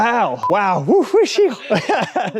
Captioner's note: laughs